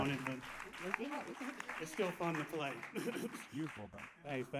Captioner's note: applause